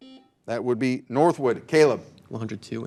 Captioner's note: buzzer buzzing